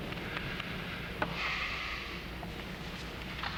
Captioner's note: sighs